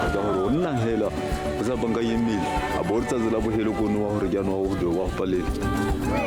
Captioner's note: speaker speaking in foreign language